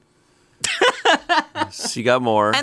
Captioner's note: laughs